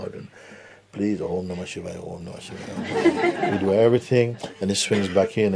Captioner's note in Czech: smích